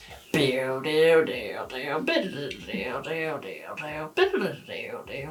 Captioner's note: mimicking synth music